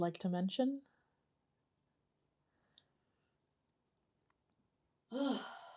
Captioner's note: pauses 17 seconds